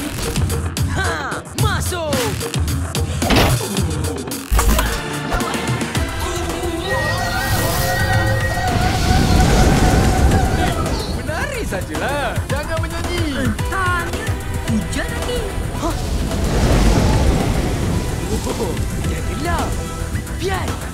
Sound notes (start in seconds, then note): 6.1 off-tune screaming; 8.6 thunder rumbling